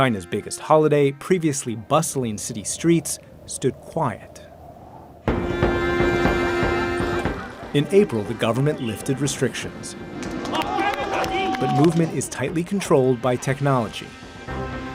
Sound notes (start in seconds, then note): 4.8 wind whistling; 5.9 light dramatic music; 11.1 speaking foreign language